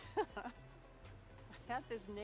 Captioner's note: laughing